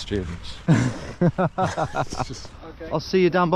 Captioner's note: both laughing